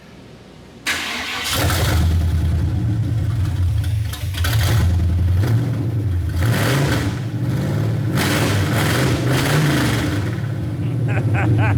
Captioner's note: engine Revving; laughing